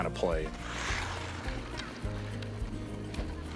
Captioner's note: ice scraping